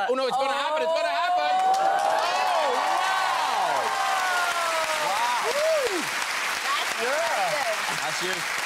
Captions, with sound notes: Oh no, it's going to happen! It's going to happen! (guests and audience cheer) That's impressive.